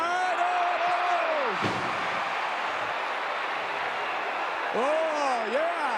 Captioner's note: audience cheering